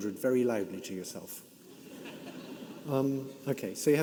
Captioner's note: audience laughing